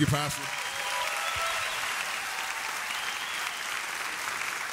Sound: audience applauds

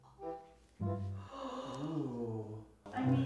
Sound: gasps

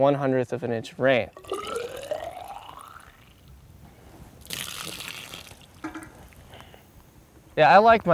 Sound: water pouring

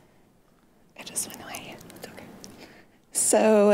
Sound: whispering

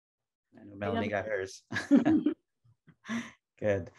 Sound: laughs

